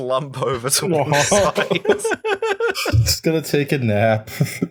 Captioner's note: laughter